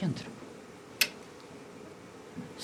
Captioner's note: click